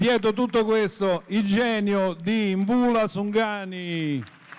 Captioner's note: applause; speaking italian